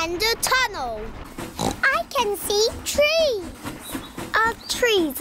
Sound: oinks

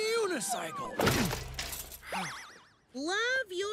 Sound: crashing

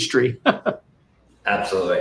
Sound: laughing

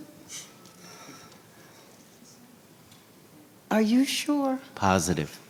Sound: speaking faintly

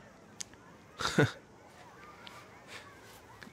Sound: laughs

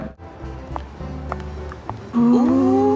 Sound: high heels clicking

